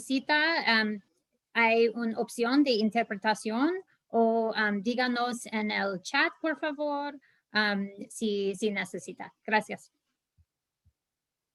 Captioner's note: speaking in Spanish